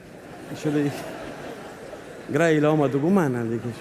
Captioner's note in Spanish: Risas